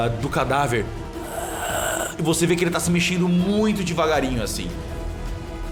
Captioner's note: aarrgh